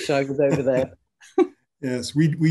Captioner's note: both laughing